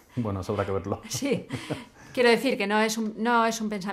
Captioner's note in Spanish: risas